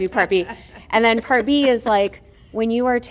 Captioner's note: laughter